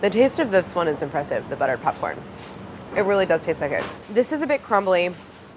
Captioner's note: none